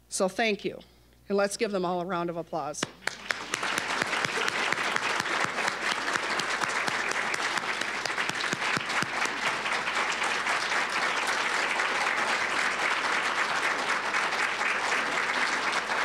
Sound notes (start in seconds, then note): 2.8 applause